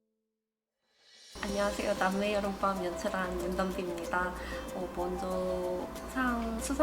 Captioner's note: speaking in Korean